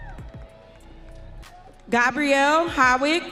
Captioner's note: audience cheering